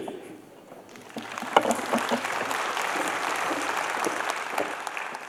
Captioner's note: applause